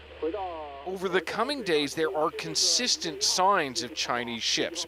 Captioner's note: speaking alternate language